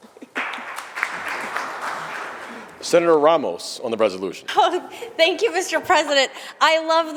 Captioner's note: applause